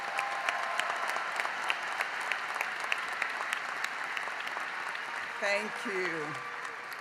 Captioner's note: applause